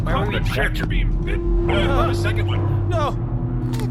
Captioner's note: hum increases